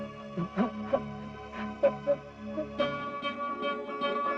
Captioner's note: crying